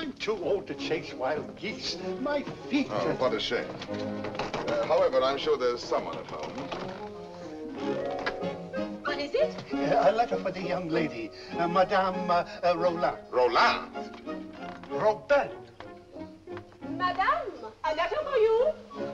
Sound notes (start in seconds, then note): 4.1 knocking on door; 7.7 door opens